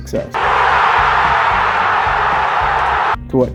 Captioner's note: crowd cheers